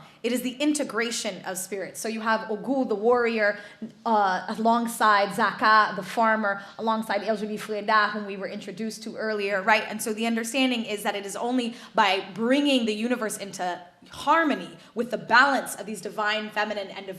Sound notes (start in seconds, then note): none